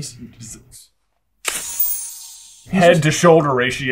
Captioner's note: magical non-Thanos snapping sound